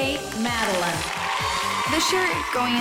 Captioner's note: cheers